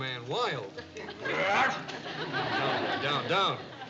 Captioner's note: barks like a dog